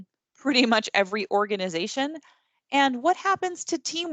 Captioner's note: chuckles